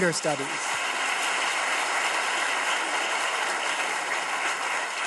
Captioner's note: audience claps